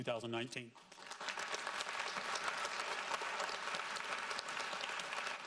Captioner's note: audience applauds